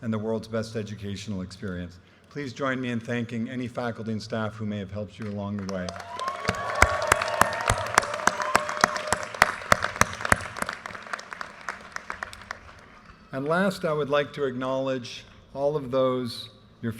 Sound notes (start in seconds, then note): 5.6 audience cheers and applause